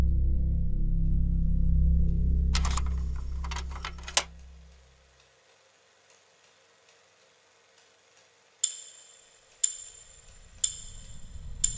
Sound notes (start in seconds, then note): 0.0 foreboding music; 2.5 film reel rattling; 8.8 metal clinking